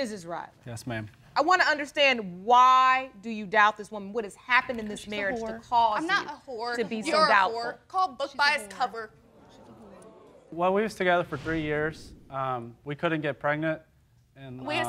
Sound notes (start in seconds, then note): 9.3 audience gasping